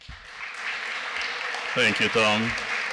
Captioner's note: applause